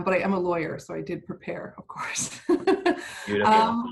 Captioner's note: laughs